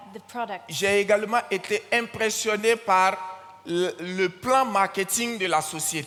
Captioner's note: continues in French